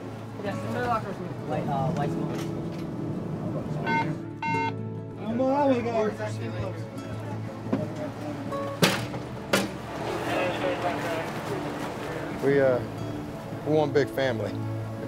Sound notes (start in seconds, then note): 0.3 muffled chatter; 3.8 beeping